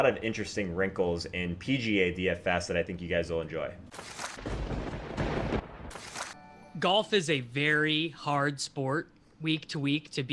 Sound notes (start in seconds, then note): 4.1 lightening; 4.4 thunder